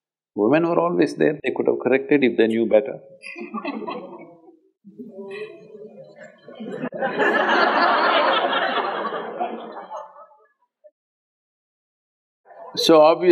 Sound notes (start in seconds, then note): 3.1 laughter